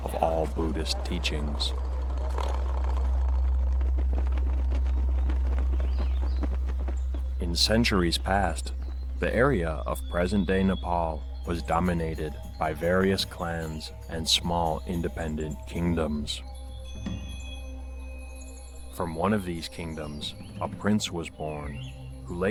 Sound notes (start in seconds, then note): 2.5 gentle music; 5.4 birds singing